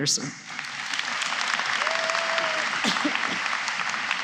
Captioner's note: applause